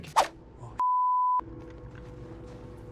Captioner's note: beep